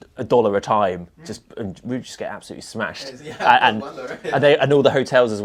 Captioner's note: laughs